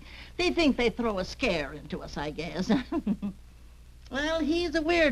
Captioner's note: chuckles